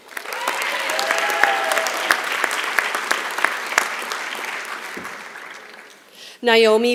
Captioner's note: applause